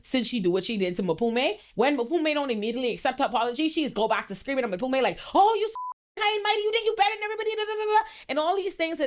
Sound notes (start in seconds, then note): 5.7 beep